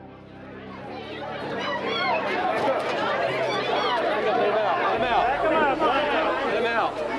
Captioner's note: crowd panics